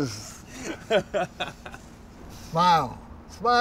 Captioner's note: laughs